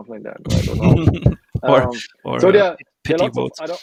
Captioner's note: laughing